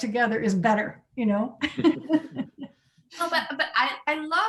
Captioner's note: all laughing